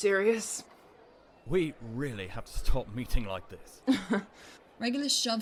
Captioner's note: Regulus lets out a breath of laughter